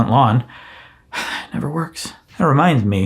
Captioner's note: sighs